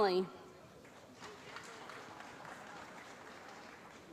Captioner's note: applause